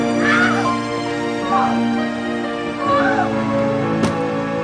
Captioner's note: August screaming